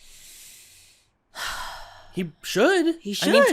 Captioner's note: sighs